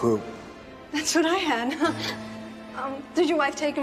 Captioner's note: chuckles